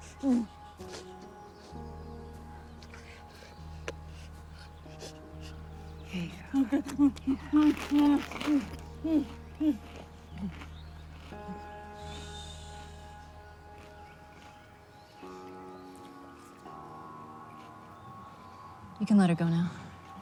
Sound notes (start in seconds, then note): 7.3 munching